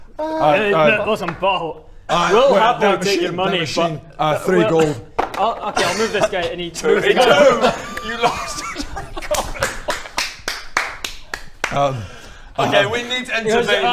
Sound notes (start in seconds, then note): 9.4 laughing